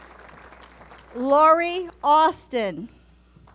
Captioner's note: applause; applause